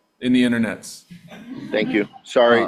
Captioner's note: audience laughing